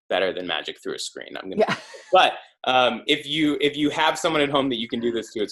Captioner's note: laugh